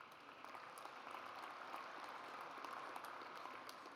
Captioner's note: audience applauds